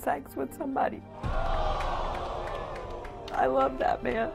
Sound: audience gasping

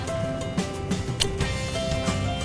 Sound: kissing

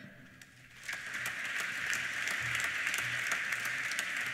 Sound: applause

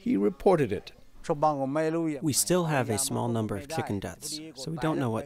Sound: through translator

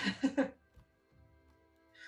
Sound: laugh

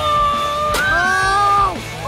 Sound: cheers

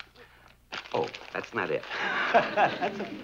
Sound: laughs

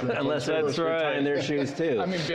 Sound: laughter

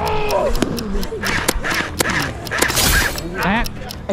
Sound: gunshot firing

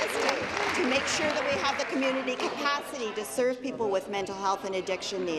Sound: applause

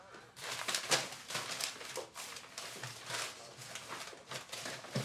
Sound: papers rustling

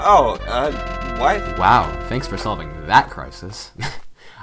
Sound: chuckle

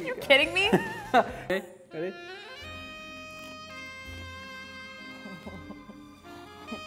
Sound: laughs; romantic saxophone music

